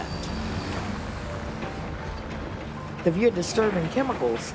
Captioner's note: machinery running